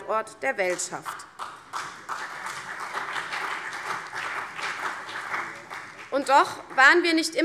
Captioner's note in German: Beifall CDU und BÜNDNIS 90/DIE GRÜNEN